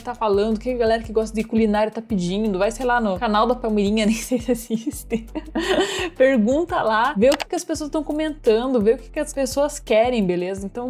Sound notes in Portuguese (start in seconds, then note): 5.1 risos